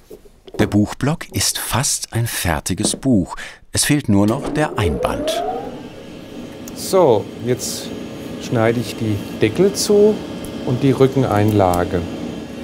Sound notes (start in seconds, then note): 3.8 quiet whirring